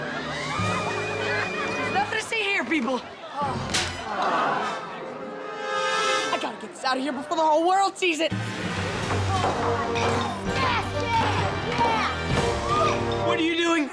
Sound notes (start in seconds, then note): 0.0 laughing; 3.7 groaning